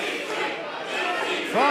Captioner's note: fans chanting